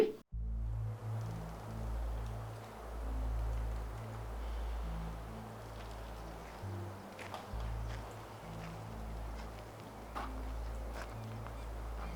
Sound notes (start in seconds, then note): 0.2 threatening ambient music; 6.2 footsteps on gravel